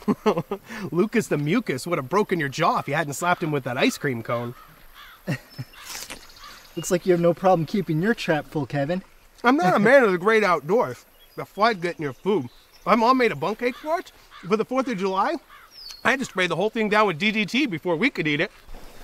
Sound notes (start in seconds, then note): 0.0 chuckling; 5.8 chomping